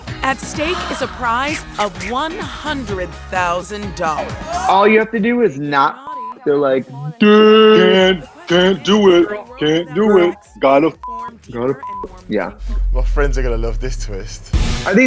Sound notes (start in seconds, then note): 6.0 beep; 11.8 beep